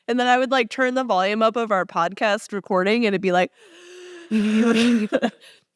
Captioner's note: audible breathing